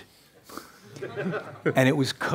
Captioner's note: laughs